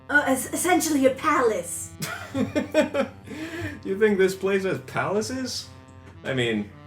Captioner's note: laughs